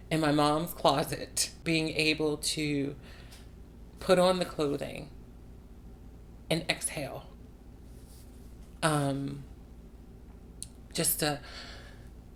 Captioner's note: takes a breath